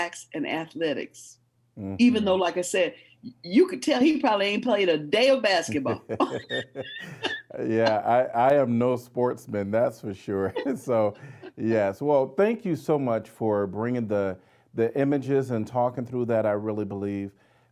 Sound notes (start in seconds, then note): 5.7 laughing